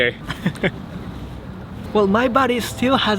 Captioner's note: chuckle